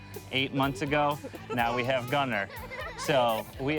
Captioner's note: laughing